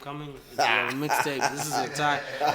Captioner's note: laughs